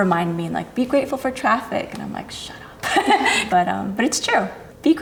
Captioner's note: laughs